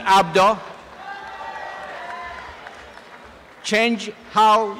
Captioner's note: applause and cheering